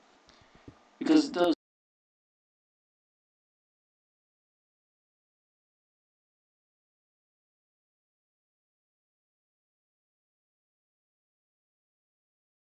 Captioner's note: audio missing